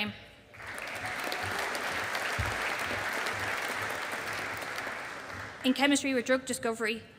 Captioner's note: audience applauding